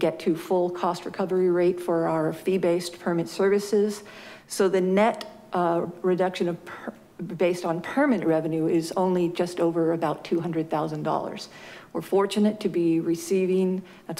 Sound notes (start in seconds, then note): none